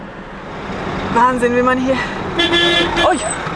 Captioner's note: honks